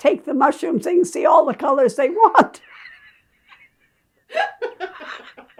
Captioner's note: both laughing